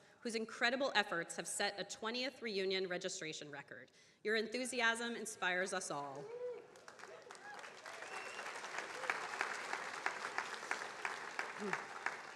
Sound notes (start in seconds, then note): 6.4 attendees cheering and applauding; 6.6 attendees applauding